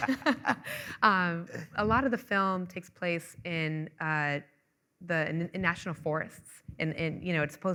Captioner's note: laughing